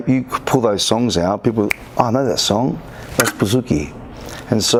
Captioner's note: clicks fingers